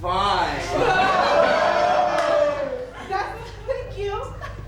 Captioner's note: the men yell and laugh together